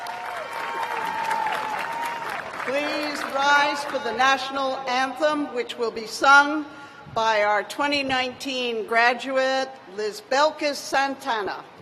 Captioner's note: cheers and applause